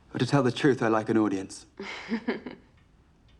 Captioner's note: chuckles